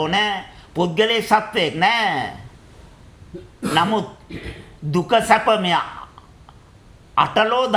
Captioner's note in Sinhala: උගුර කෑරීම